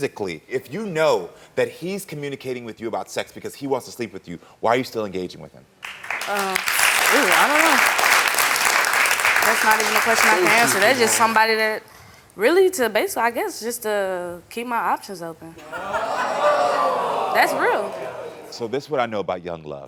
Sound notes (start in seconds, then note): 5.8 audience clapping; 15.6 audience booing